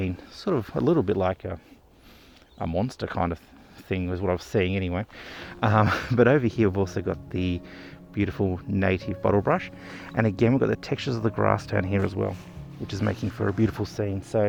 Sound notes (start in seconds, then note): 5.6 laughs